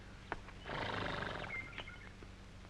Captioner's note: horse snorts